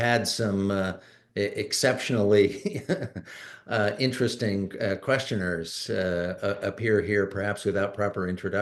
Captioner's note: laughs